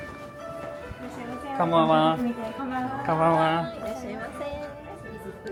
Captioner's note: oriental music plays; speaking Japanese